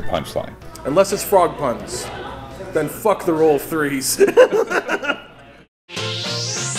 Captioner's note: laughing